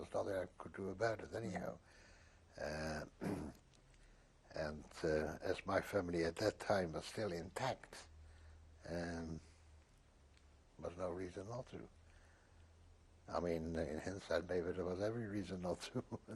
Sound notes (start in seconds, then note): 8.0 pauses for 3 seconds